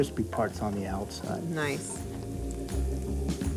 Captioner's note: cooking oil sizzling